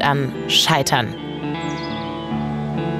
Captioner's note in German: Vogelzwitschern